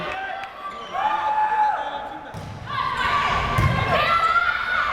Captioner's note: crowd cheering